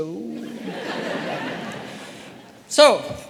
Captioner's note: audience laughing